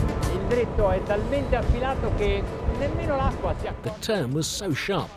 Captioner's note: speaks Italian